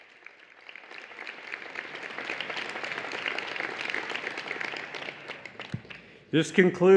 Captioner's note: applause and Cheering